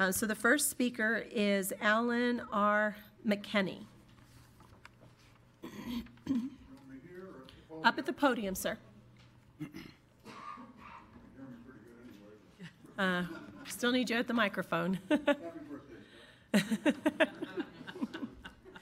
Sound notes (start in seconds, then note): 16.6 laughing